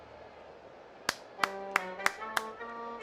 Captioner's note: clapping